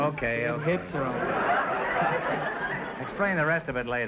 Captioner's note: audience laughter